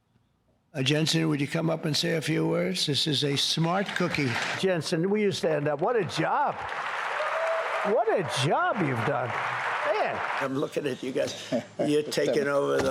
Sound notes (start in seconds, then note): 8.9 applause